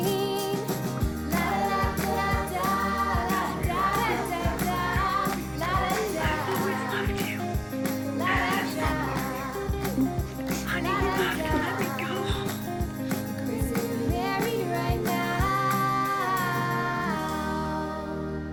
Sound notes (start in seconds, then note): 7.3 stella and casey start sobbing